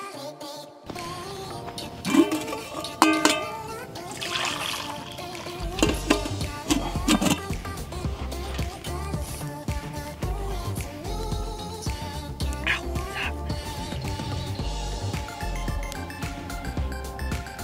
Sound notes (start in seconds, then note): 1.5 lid clanking; 4.1 liquid pouring; 5.9 clanking; 14.9 techno music